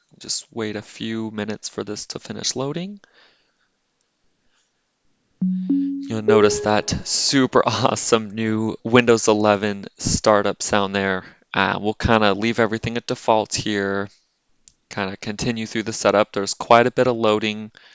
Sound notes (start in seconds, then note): 5.4 Windows 11 Startup Chime Plays